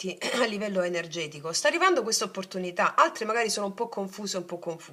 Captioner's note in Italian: schiarire la voce